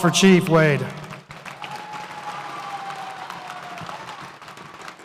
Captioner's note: audience cheers